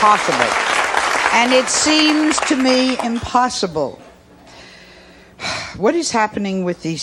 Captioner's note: sighs